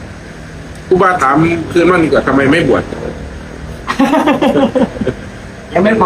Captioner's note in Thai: เสียงหัวเราะ